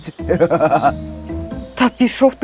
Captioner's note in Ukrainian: сміх